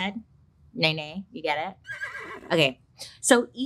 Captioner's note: horse brays